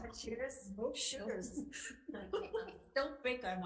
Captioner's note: group laughing